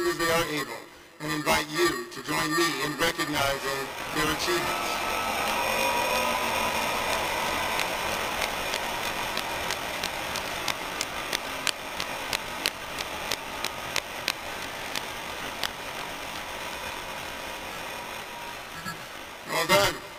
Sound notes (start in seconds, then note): 5.5 applause, cheering